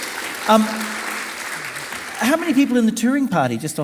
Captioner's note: audience applauding